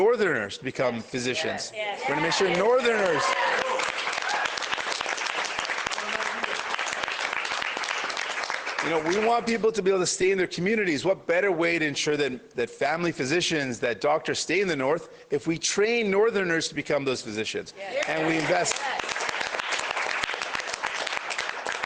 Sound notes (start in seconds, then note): 7.1 cheers and Applause